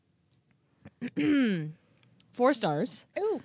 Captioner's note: clearing throat